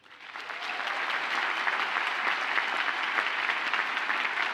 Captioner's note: audience applauds